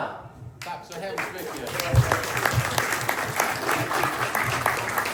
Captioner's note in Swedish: applåder